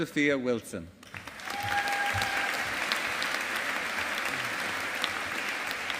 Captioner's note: audience applauding